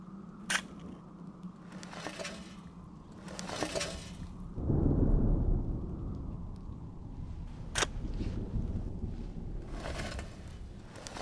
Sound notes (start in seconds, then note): 0.1 metal scraping; 4.4 thunder rumbling